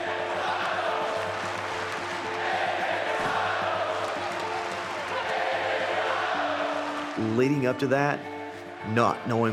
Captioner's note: applause